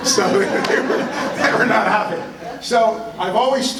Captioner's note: laughter